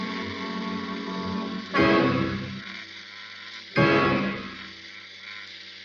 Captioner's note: doll makes a frighting sound